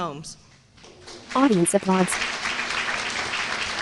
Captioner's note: applause